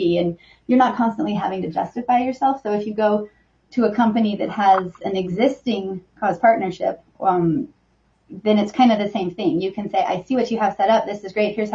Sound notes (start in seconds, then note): none